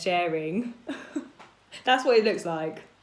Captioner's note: laughs